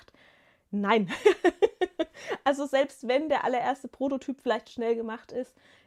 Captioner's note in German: gelächter